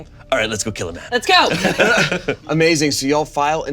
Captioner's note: all chuckling